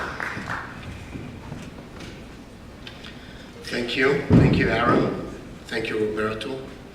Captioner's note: applause